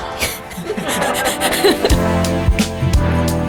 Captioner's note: laughing; upbeat music